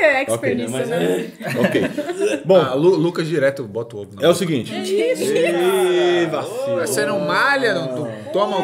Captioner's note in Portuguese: risos